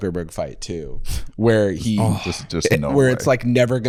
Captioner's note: groans